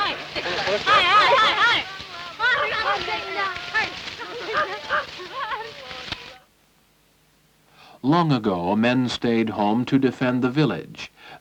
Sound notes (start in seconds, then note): 2.0 shouting